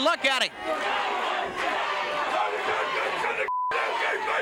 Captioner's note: crowd chants "Traitor"